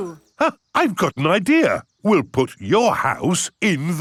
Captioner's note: gasps